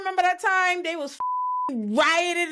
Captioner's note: beep